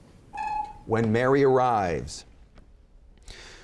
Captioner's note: chimes